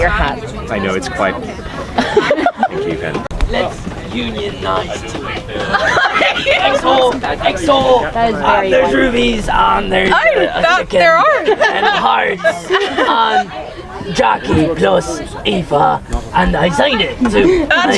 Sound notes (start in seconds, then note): 1.9 laughing; 5.7 people chattering